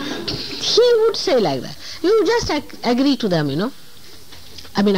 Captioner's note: laughter